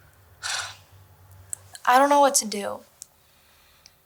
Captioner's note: scoffs